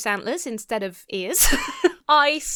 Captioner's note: laughs